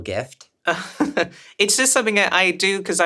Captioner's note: chuckles